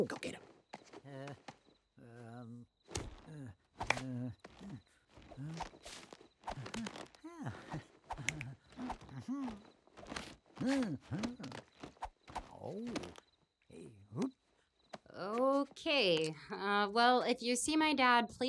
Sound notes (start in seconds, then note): 3.0 grunting softly; 8.2 grunting rhythmically; 8.7 chuckles; 10.6 grunting rhythmically; 10.6 chuckles